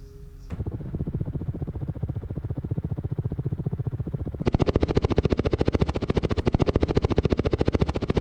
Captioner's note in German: Hubschraubergeräusch